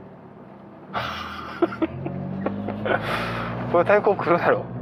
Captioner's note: laughs